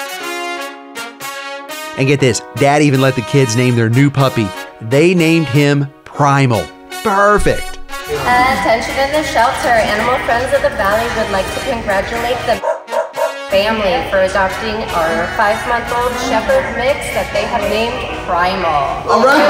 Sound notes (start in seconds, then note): 0.2 jubilant music; 12.6 dog barks